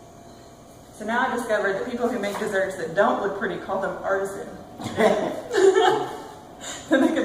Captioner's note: laughter